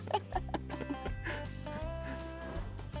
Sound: laughs

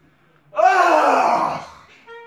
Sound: screams

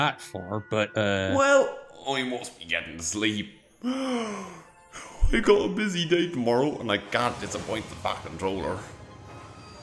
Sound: yawns

